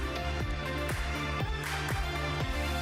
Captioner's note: applause